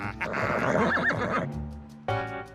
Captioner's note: neighs